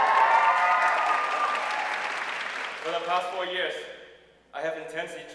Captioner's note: audience cheering and applauding